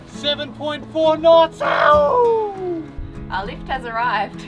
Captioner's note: screams excitedly; laughs